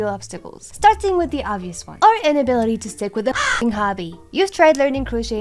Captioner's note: crow